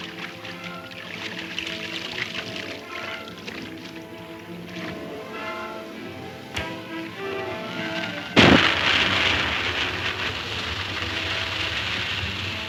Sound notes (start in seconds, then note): 0.3 quiet orchestral music; 8.4 fuse hissing